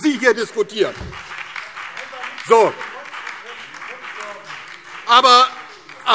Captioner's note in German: Beifall DIE LINKE, BÜNDNIS 90/DIE GRÜNEN und vereinzelt SPD